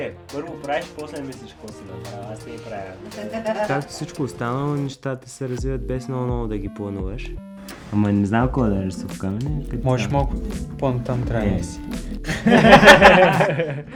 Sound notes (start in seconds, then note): 12.3 laugh